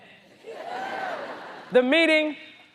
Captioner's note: audience cheers